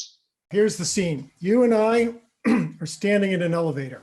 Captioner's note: clears throat